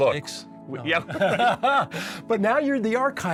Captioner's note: laughing